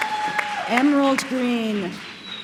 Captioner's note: applause